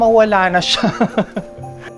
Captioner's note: laughs